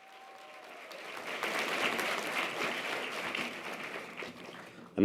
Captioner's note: audience applause